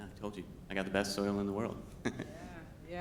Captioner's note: laughs